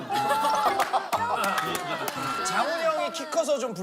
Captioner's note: the 207cm tall guy can only laugh